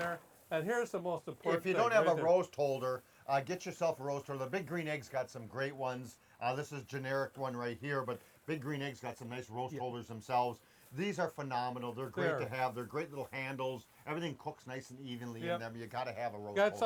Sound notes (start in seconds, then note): none